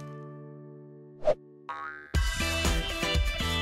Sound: air whooshes; logo boings; upbeat music

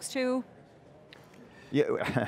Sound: chuckles

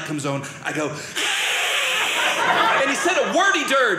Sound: hisses

